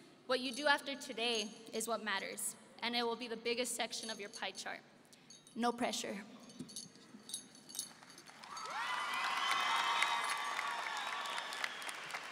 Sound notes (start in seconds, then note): 8.2 audience applauding